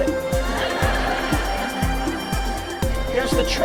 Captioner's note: audience laughing